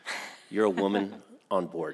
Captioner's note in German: lacht